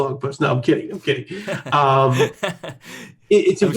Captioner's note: laughs